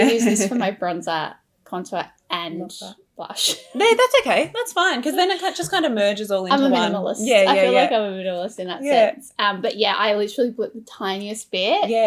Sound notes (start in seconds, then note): 0.0 laughs; 3.6 laughs